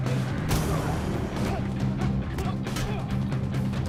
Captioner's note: tense music; fists thudding